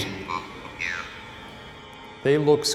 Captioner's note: automated voice speaks